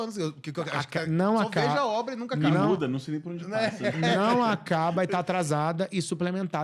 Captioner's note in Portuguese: risadas